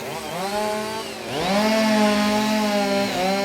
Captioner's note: chainsaw cutting down tree